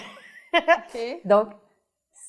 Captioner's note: laughs